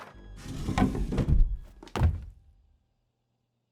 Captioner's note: door clattering